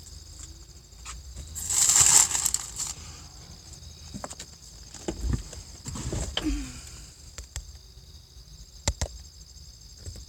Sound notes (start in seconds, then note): 1.4 bags rustle; 6.2 exhale of breath as items are lifted